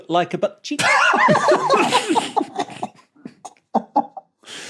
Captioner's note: blurt laughter